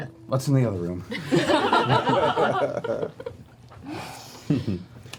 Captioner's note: laughter